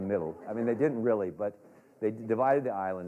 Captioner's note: laughter